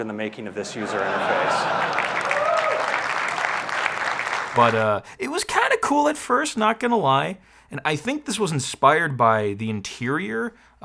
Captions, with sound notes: in the making of this user interface. (audience laughing) (audience cheering) - But it was kind of cool at first, not gonna lie. And I think this was inspired by the interior